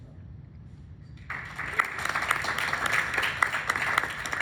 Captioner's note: applause